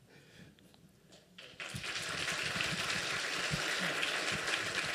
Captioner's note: applause